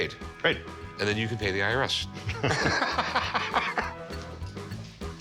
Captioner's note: laughter